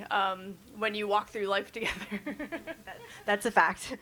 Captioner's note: chuckles